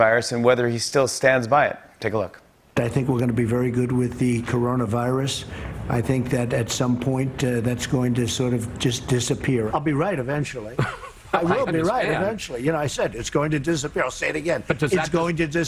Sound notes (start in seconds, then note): 10.7 laughs